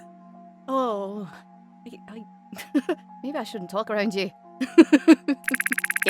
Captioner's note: giggles